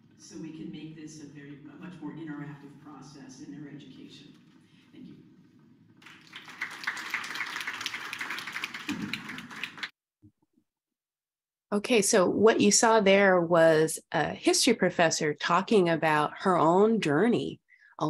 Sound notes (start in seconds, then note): 6.0 students applauding